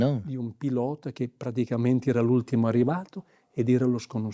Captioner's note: Italian spoken audio